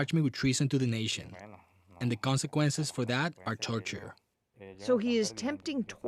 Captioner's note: speaking spanish